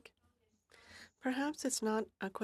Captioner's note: speaking in french